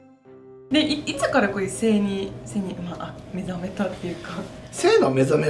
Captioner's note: laughs